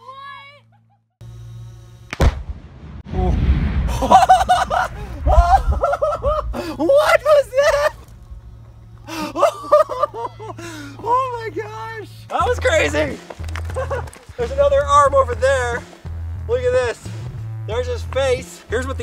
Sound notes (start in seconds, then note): 2.1 explosion; 3.9 laughing